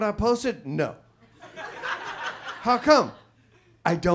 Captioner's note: audience laughs